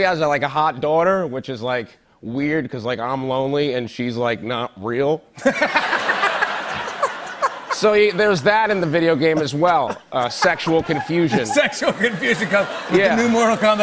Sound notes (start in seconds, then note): 5.2 laughter